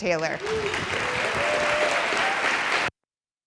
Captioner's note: applause; silence